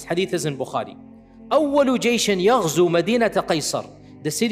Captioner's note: Arabic